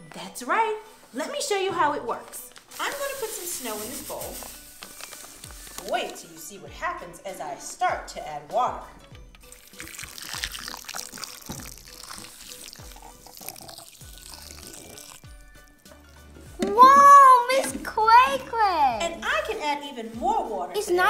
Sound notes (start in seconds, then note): 9.5 water pouring